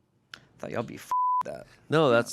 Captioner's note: beep